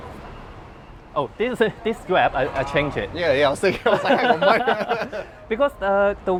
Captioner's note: laugh